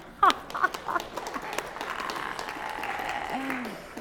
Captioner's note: applause